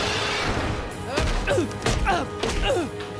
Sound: grunting

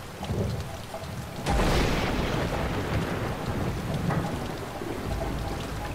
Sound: thundering

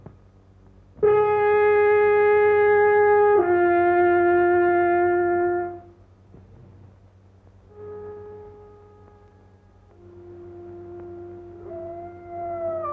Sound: blows horn; dogs howling

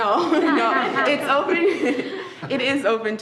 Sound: laughing

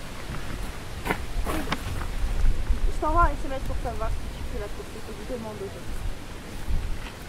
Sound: in french

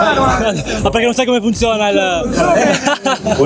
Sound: laughs

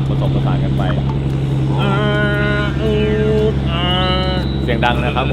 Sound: Zee mimicking engine roars

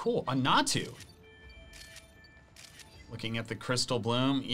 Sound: photo snapping

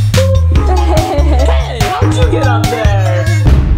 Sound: laughter

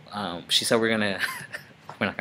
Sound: laughing

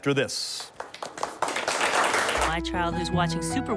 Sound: applause

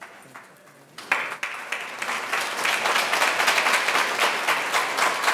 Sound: audience applauding

